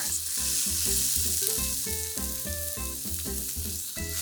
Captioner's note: pan sizzling